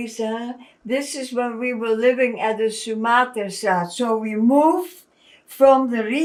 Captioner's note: non-english